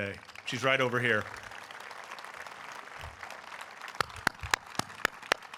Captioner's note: audience applauding; applauding